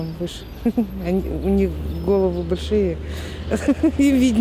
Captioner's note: chuckles; chuckles